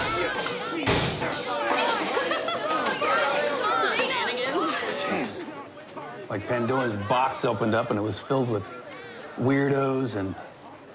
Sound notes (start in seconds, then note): 1.8 laughs